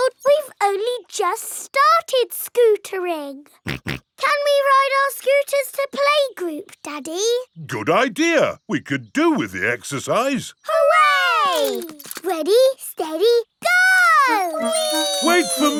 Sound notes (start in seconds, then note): 3.7 snorts